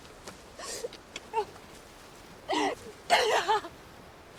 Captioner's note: Aradia cries